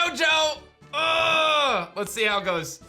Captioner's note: grunts